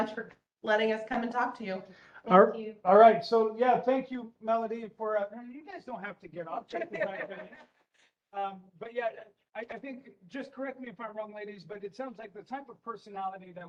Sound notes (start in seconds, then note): 6.6 laughing